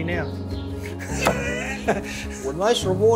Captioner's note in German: Lacht